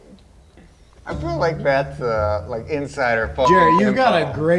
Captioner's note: beep